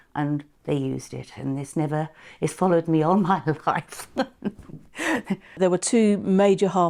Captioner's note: chuckles